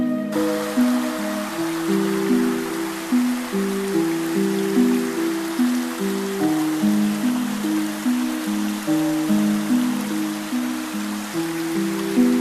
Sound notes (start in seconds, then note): 0.6 water rushing